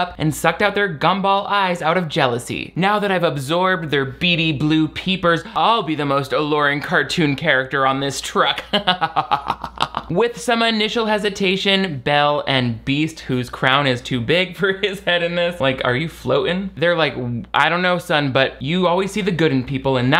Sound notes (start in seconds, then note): 8.5 laughs